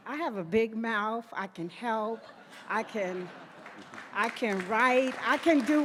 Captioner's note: audience laughing; audience applauding